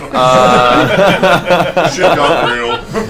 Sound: all laugh

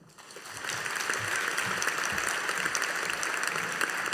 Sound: audience applauding

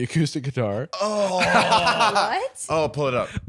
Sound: groaning in disgust

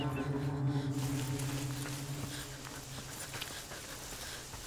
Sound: heavy breathing

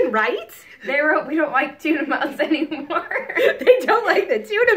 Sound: chuckles

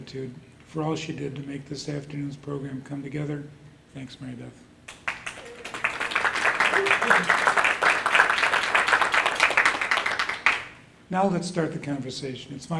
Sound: applause

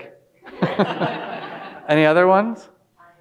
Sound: all laughing

